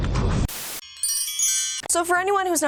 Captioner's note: chimes